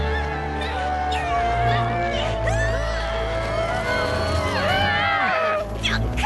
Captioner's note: grunts and groans